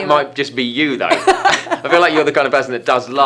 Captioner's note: laughing